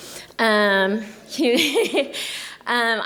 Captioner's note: laughs